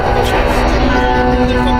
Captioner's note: laughing